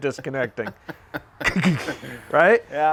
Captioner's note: man laughs